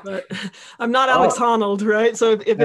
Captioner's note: laughing